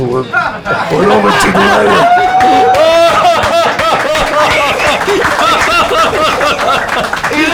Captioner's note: cheers and applause